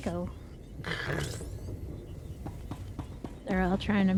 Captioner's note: snorts